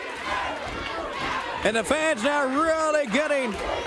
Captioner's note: crowd cheering